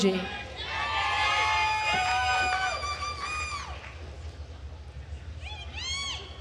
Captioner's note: attendees cheering and applauding